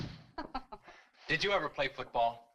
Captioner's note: woman chuckles